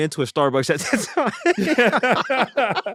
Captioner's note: laughter